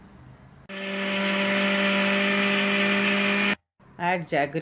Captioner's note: mixer grinding